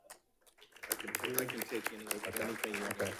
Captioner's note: audience clapping